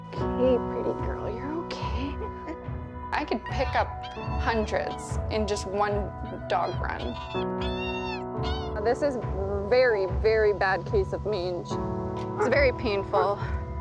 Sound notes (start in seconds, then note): 7.0 whining